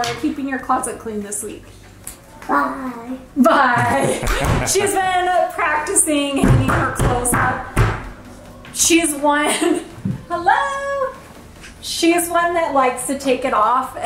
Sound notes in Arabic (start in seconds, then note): 3.7 يضحك; 6.4 تطرق الباب